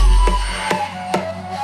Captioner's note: none